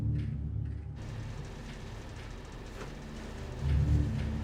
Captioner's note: AC humming